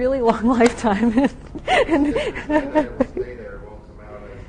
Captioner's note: laughing